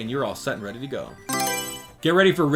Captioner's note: Mario Selection Sound